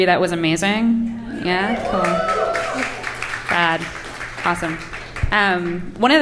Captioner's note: applause